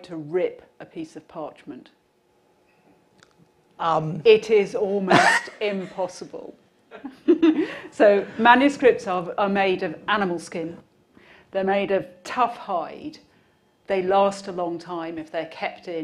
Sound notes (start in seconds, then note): 6.6 nervous laughter